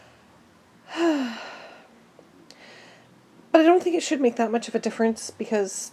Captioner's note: sigh